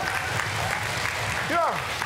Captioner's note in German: Jubel